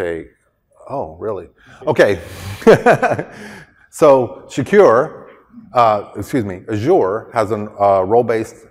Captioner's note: laughter